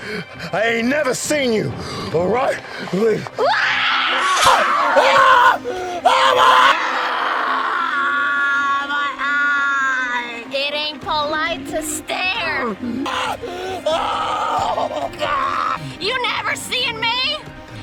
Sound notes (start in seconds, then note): 3.4 Mia screams; 6.6 screams of terror and pain